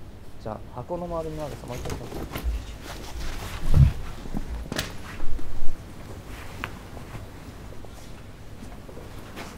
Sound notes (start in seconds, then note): 4.4 door opens